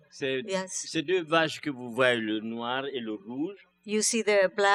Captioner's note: speaking french